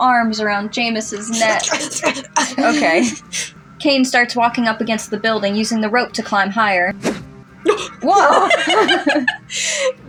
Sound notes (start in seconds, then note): 1.8 wrestling Grunts; 7.6 chuckle; 7.6 laugh